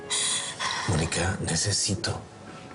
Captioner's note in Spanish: Sollozos